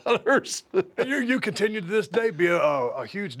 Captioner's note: laugh